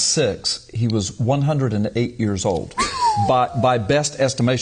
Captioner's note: whistle